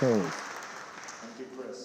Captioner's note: audience clapping